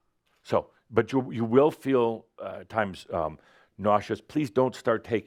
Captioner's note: none